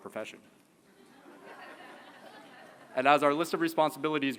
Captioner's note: laughter